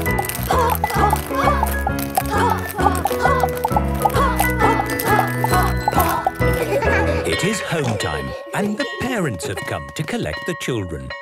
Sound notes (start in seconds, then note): 6.5 laughter